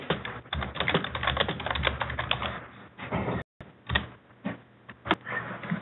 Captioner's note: computer keyboard clicking